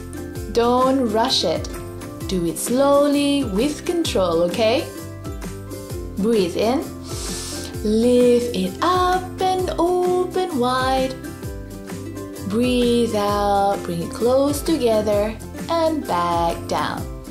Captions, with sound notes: Don't rush it. Do it slowly with control, okay? Breathe in, (breathes in deeply) lift it up and open wide. Breathe out, bring it closed together and back down.